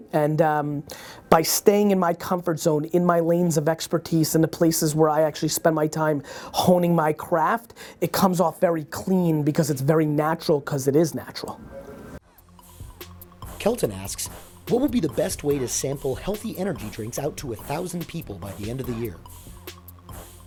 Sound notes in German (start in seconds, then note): 13.8 Voice-over